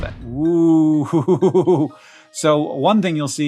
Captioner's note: chuckles